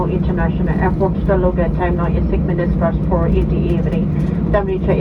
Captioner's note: cabin crew on PA, speaking English; cabin crew on PA, continues speaking English